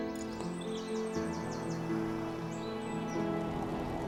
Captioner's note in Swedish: fåglarna kvittrar